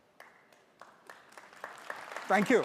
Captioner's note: audience applauds